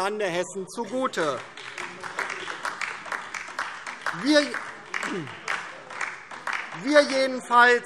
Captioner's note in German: Beifall DIE LINKE